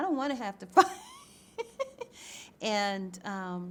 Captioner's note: chuckles